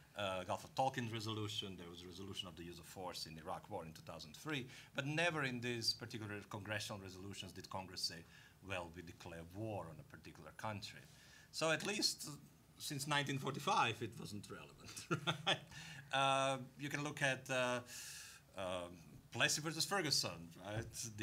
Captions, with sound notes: GULF OF TONKIN RESOLUTION. THERE WAS RESOLUTION OF THE USE OF FORCE IN IRAQ WAR IN 2003, BUT NEVER IN THIS PARTICULAR CONGRESSIONAL RESOLUTIONS DID CONGRESS SAY, "WELL, WE DECLARE WAR" ON A PARTICULAR COUNTRY. SO, AT LEAST SINCE 1945, IT WASN'T RELEVANT, RIGHT? (laughing) YOU CAN LOOK AT "PLESSY VERSUS FERGUSON," RIGHT?